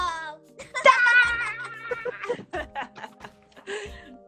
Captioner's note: laughing